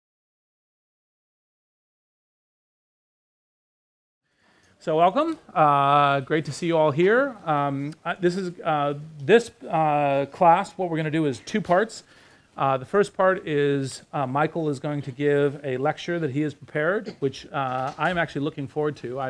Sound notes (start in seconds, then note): 4.8 voiceover